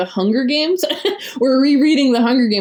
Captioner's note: laughs